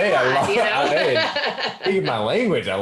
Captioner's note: laughs